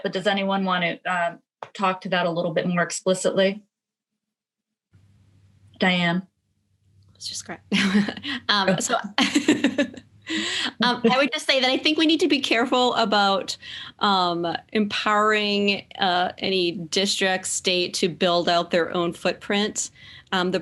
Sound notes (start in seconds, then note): 8.9 laughs